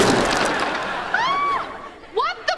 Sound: screaming

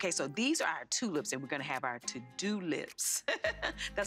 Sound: laughs

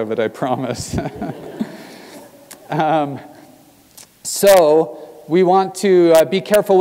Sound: laugh

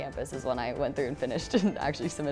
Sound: laughing

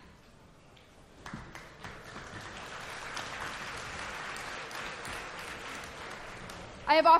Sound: applause

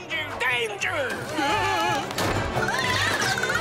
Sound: screaming

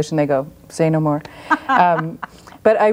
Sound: laughs

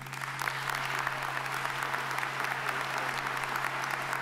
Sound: audience applauding

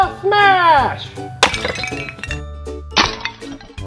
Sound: crashing

